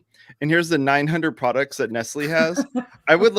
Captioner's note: laughter